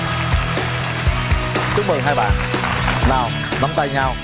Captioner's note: applause